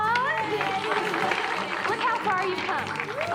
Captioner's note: all cheering